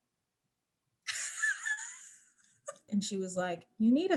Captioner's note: laughing